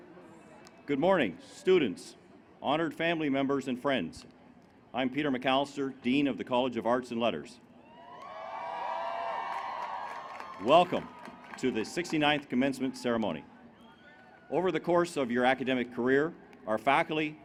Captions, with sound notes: Good morning students, honored family members and friends. I'm Peter McAllister, Dean of the College of Arts and Letters [cheering]. Welcome to the 69th commencement ceremony. Over the course of your academic career, our faculty,